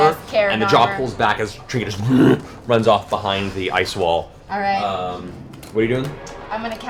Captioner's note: bear moan